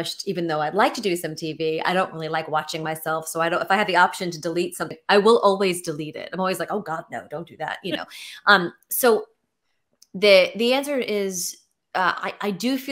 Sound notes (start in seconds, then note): none